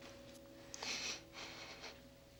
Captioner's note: breath trembling